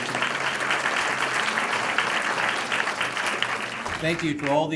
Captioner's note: applause